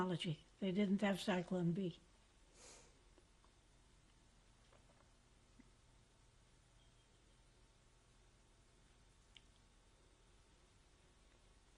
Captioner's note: pauses for 12 seconds